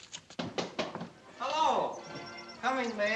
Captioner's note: knocking